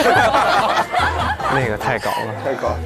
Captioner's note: laughs